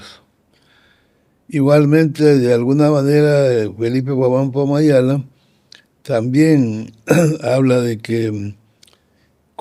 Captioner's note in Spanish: carraspeo